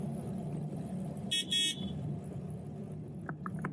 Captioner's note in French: Pouet pouet